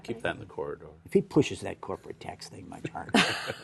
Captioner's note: laughter